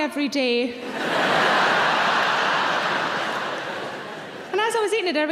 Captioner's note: audience laughing